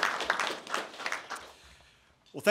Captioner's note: applause